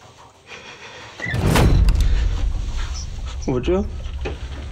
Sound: door slams shut

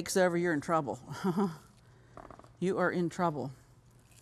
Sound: chuckles

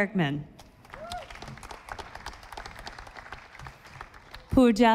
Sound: audience applauding

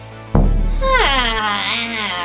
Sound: boom

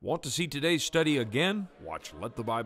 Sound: voiceover

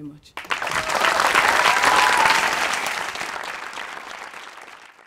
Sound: applause

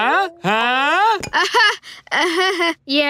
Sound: laughing

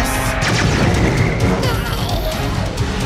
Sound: lasers blasting

